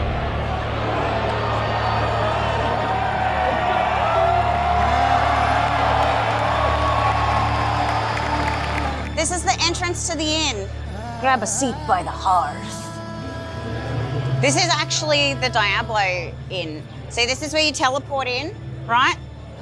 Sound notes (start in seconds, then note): 3.7 applause